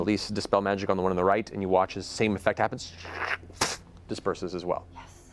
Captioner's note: poof